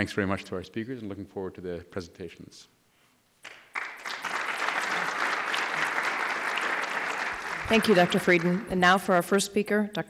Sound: applause

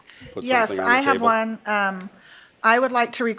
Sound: laughing

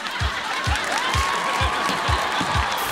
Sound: laughing

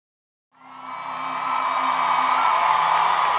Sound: crowd cheers

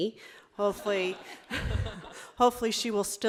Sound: audience laughing

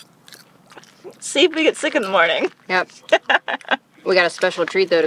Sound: laugh

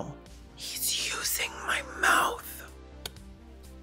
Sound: whisper

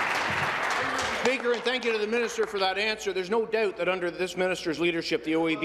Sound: applause

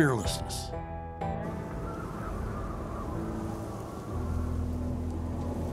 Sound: wind whistling

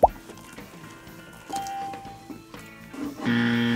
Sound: bell rings; buzzer rings

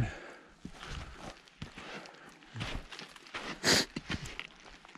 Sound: footsteps crunching

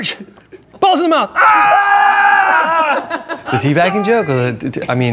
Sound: screaming

